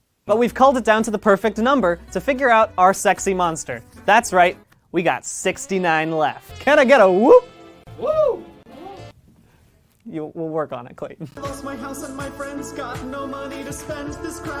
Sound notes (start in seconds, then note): 7.8 less enthusiastic cheer; 7.9 enthusiastic cheer